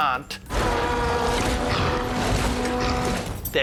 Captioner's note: growls